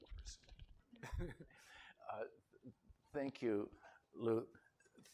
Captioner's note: laughter